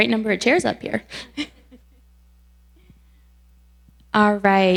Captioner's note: giggles